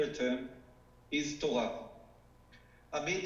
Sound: speaking foreign language

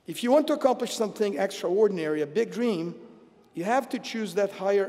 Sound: none

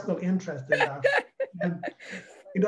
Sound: laughs

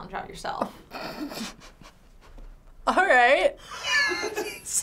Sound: snickers; laughs

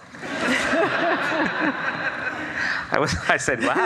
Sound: audience laughs

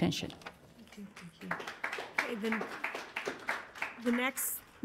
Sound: applause

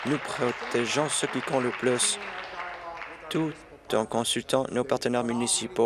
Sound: applause

